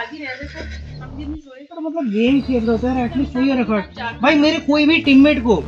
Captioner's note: muttering arguments